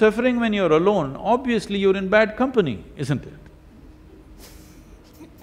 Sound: both laugh

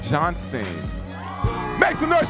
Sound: audience cheering

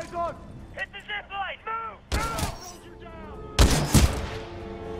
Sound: radio

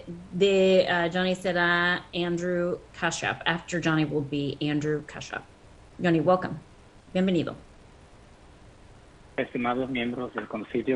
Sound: speaking in foreign language

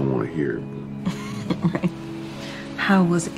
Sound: chuckles

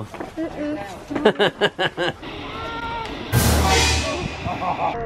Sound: laughs; suspenseful music

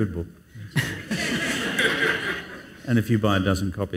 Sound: audience laughs

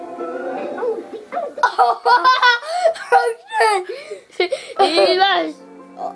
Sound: laughing

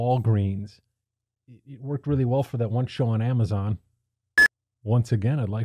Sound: beep

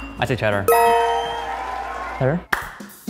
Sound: crowd cheering

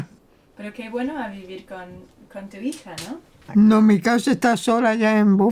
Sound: Spanish

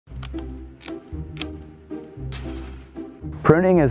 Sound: whimsical music; clipping sound

